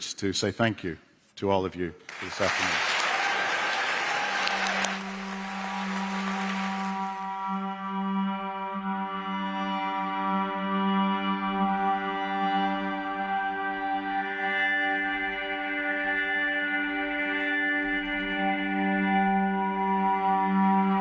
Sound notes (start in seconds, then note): 6.7 applause